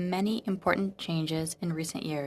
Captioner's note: speaking in french